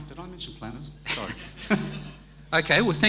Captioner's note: audience laughing